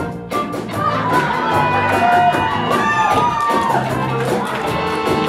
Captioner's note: audience laughs as plays